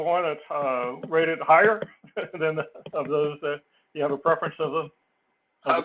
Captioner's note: laugh